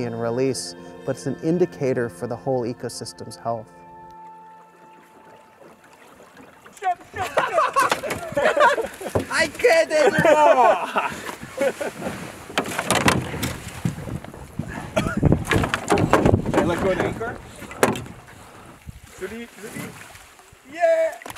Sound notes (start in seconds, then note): 7.1 laughter; 11.1 laughs